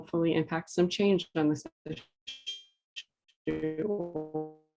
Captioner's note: distorted audio